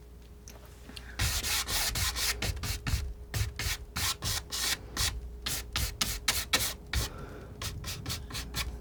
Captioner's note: scratching